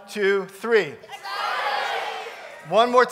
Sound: shouting

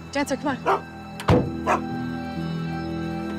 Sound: Dancer barks

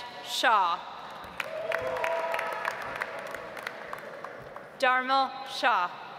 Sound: audience applauds

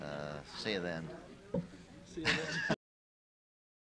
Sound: shared laughter

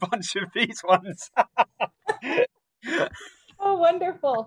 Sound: both laugh

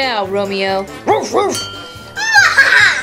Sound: Rubble barking; assistant laughing

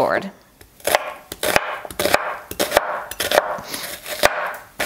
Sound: chopping onions

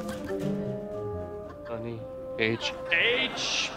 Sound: whispering

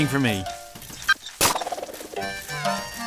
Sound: beep/pop

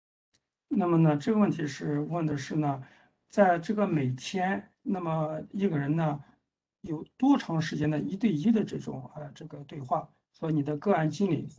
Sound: speaks in Mandarin

